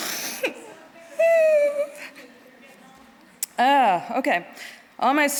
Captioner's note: all laughing; crying